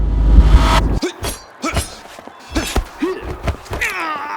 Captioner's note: both moaning